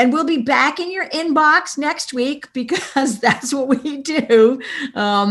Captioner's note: laughs